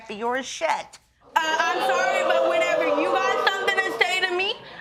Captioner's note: audience react